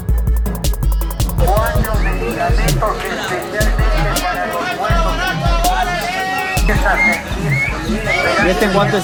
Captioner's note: people shout indistinctly to sell